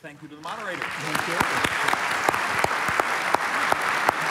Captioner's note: applause